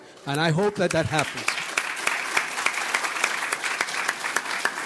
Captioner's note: audience applauds